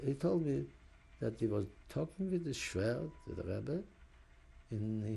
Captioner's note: yiddish